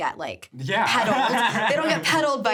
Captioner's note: laughs